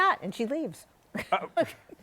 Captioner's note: laughs